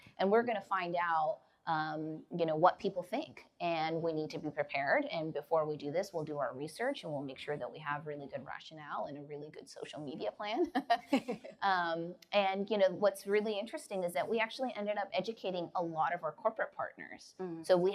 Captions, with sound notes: "and we're gonna find out what people think "and we need to be prepared and before we do this "we'll do our research and we'll make sure "that we have really good rationale "and a really good social media plan." (laughs) What's really interesting is that we actually ended up educating a lot of our corporate partners.